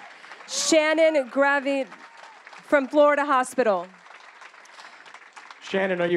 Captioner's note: applause